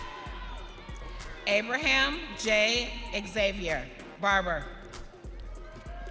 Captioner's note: audience cheering